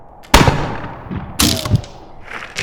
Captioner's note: gunshot